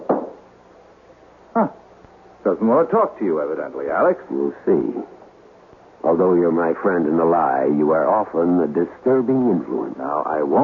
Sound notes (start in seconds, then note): 0.0 knocking